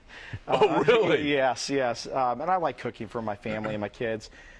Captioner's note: laughter